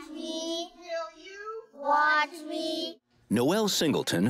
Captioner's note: kids saying together